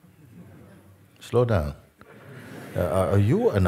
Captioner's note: Lachen